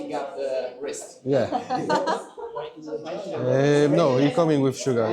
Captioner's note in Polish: śmiech